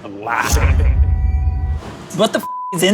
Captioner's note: tense music; knife schwings